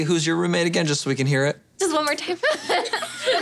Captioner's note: laughing